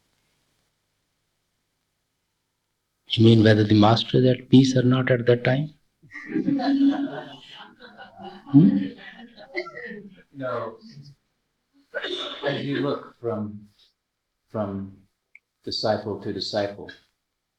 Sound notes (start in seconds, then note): 12.0 laughter